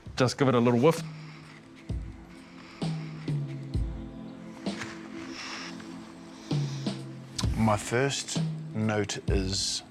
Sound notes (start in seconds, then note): 4.6 sniffs